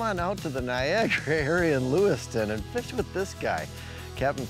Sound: giggles

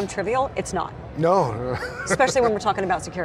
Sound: laughs

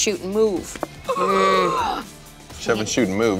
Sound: gasps

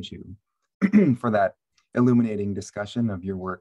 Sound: clears throat

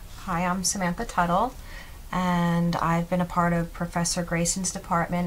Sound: none

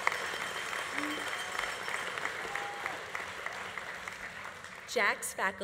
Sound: audience applause continues

